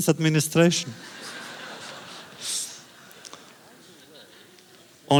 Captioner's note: audience laughter